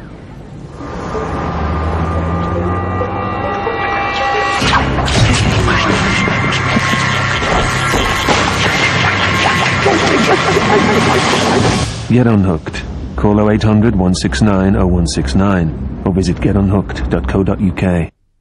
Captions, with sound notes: [traffic noises] [intense music, fishing rod winding] Get unhooked. Call 0800 169 0 169 or visit getunhooked.co.uk.